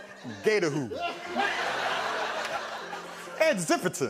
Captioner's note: laughter